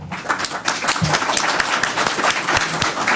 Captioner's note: applause